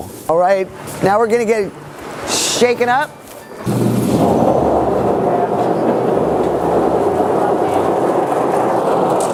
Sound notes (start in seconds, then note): 4.4 loud whirring